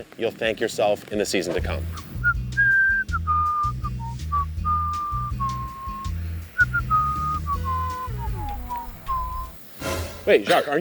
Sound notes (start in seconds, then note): 2.4 whistling; 3.7 light music continues; 9.8 intense music